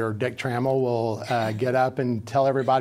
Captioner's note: chuckling